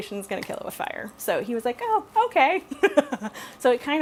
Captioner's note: laughs